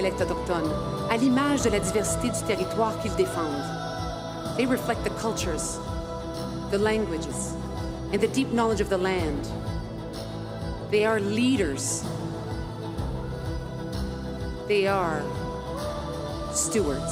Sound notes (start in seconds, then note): 6.7 speaking French